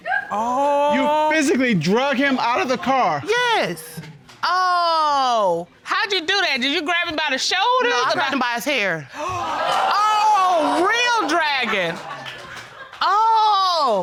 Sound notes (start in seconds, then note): 9.2 audience exclaiming